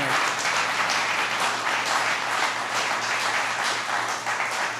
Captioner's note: applause